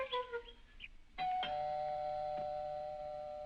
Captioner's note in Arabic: رنين جرس الباب